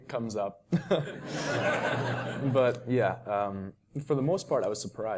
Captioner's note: laugh